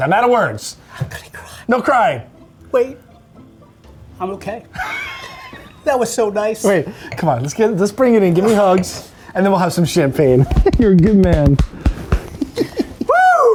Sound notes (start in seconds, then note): 4.8 all laughing; 12.2 laughing